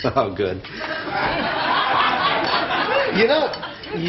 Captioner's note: audience laughs